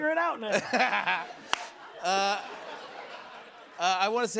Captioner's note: laughter